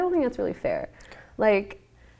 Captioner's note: whispers